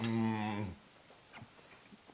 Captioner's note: laugh